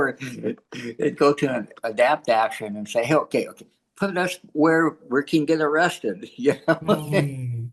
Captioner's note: laughs